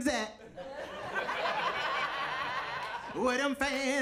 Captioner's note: audience laughing